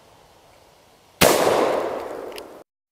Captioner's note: gun fires